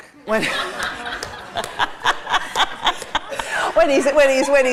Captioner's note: laughter